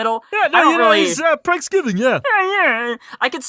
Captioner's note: shrug voice